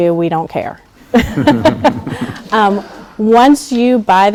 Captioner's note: laughing